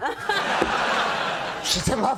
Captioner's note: Aniston and public laugh